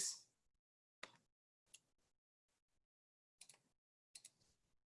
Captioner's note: keyboard clicking; mouse clicking